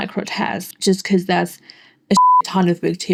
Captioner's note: bep